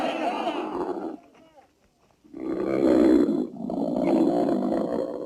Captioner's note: Quaswa grunting